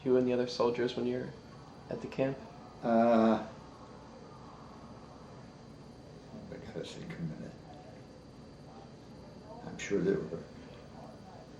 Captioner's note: mumbles to self